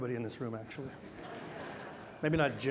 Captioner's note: laughter